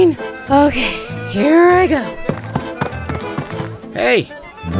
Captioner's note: running